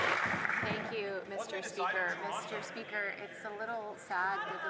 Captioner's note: some Applause